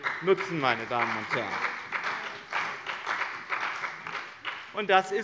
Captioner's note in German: Beifall bei dem BÜNDNIS 90/DIE GRÜNEN und der CDU